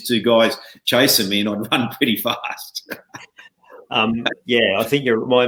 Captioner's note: chuckling